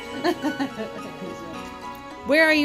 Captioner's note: laughing